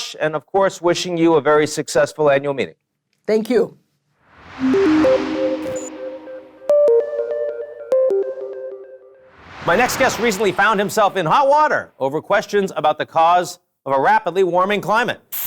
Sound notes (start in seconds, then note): 4.3 air whooshing; 4.4 upbeat music; 9.2 air whooshing